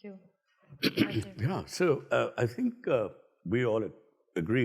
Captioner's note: clears throat